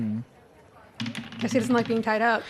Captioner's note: dice rolls and falls on the floor